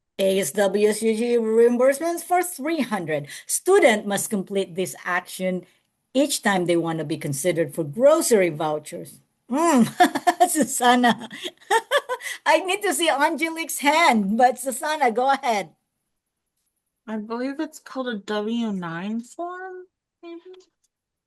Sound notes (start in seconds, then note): 9.6 laughs